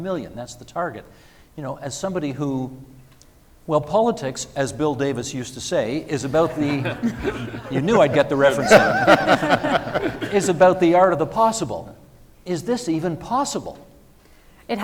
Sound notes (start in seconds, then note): 6.1 audience and panellists laughing; 9.0 all laughing